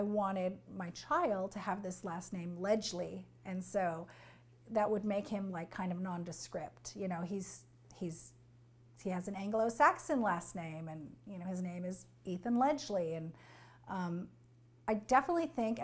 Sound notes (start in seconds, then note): none